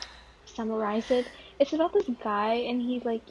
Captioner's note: wheeze